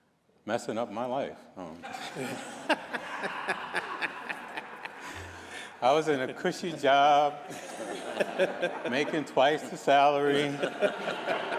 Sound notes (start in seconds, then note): 5.7 laughter